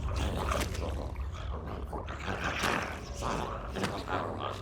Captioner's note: dramatic music continues; zombie growling